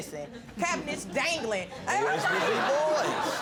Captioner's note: all laughing